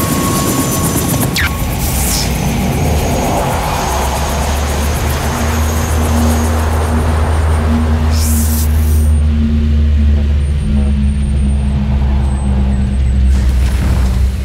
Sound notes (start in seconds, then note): 1.4 electrical fizzling; 6.6 ship humming